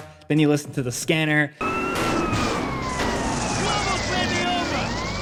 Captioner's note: sirens wailing